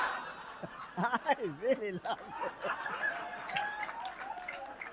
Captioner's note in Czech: smích